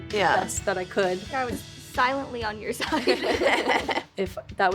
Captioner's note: all laugh